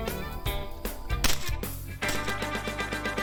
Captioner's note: gun fire